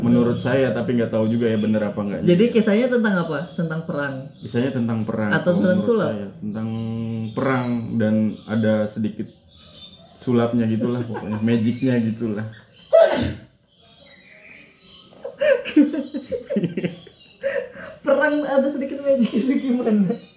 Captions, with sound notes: "That what's on my mind, but I don't know" So, tell me the story? About war? or magic show? "Both, about war, with a little magic trick inside" *Laughing* Why? I mean, how could those two themes come in one story?